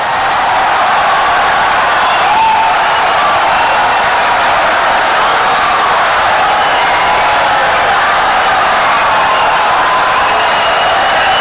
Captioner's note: wild applause and cheering for 17 seconds